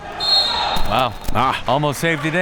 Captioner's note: whistle blowing